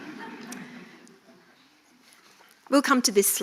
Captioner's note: audience laughing